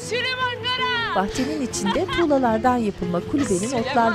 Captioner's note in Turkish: Gülme sesi